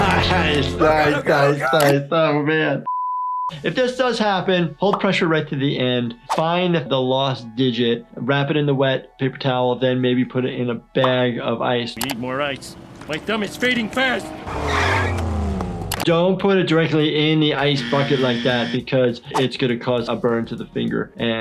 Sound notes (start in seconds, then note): 14.9 car squeals